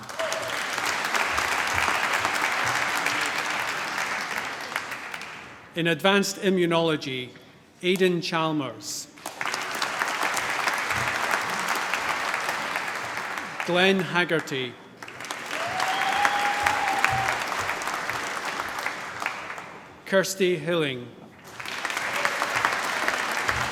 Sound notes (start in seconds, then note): 0.0 applause; 9.1 applause; 15.0 cheering, applause